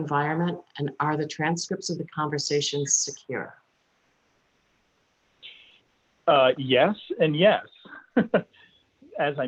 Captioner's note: chuckles